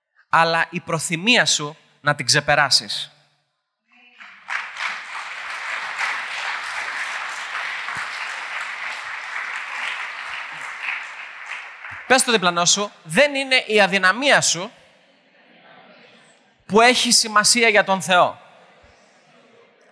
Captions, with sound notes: but your willingness to overcome it! [Applause] Tell your neighbour, "It is not your weakness that matters to God